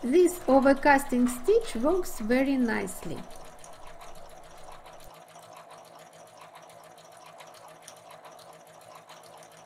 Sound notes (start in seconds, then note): 5.4 sewing machine humming